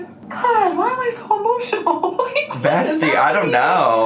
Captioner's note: laughs